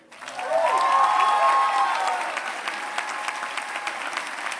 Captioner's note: cheering